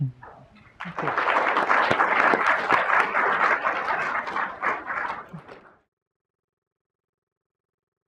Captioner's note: applause